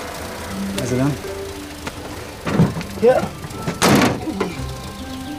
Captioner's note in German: Motor springt an